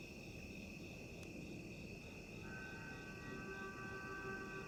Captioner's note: crickets chirping